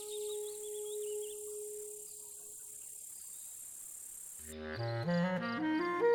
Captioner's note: ciche skomlenie wilków, świerszcze, śpiew ptaków